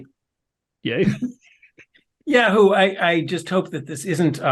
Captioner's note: laugh